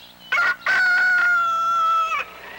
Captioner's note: rooster crows